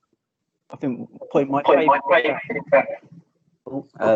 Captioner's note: interference